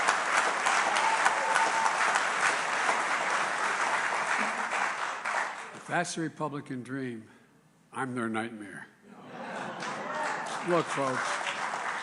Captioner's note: applause